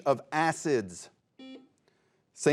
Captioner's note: buzzer beeps